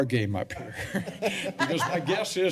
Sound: laughter

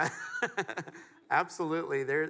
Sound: laughs

